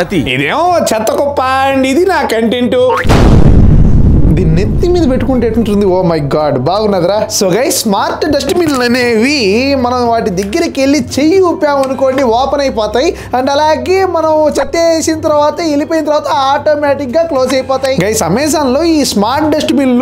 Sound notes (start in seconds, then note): 3.0 blast sounds